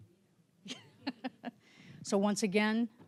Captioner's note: laughing